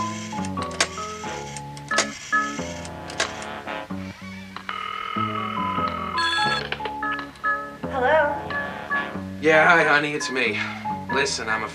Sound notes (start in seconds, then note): 4.6 phone ring